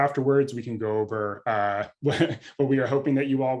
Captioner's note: laughs